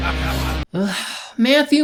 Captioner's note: more evil laughing; sigh